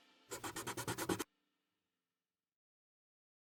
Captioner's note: pencil whooshing